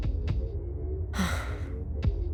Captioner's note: disappointed sigh